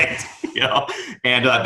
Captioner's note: laughing